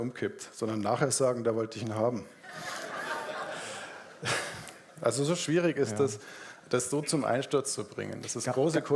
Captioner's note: audience laughs